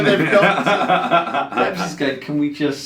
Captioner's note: laughing loudly